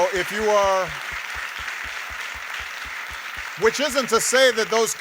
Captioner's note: audience applauding